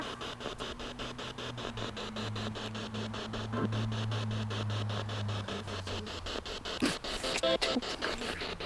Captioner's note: noise of the spiritbox in the background